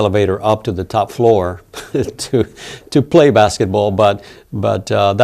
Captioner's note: laughs